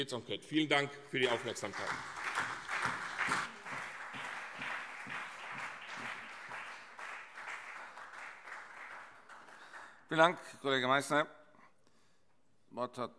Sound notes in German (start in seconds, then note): 2.9 Beifall CDU und BÜNDNIS 90/DIE GRÜNEN